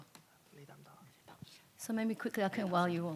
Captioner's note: speaks in foreign language